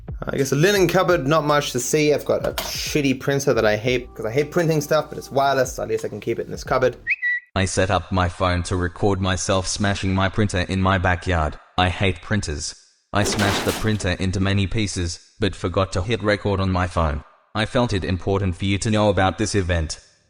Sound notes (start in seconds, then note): 13.2 smashing sound